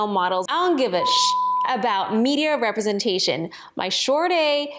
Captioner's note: beep